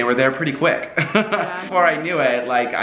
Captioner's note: laughs